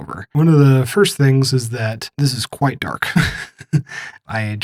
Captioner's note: laughs